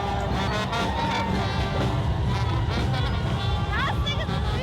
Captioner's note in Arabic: النفخ في البوق